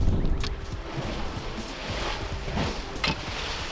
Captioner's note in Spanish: ondas ondulantes